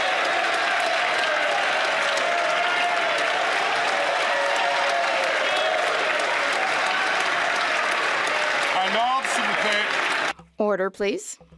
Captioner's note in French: applaudissements